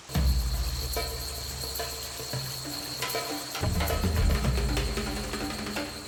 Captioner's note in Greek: ήχος νερού που τρέχει και μουσική από κρουστά